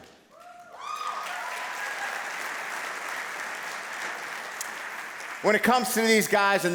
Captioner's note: cheers and applause